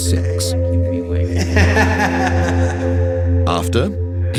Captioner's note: laughing